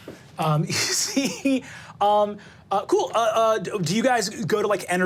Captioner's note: laughs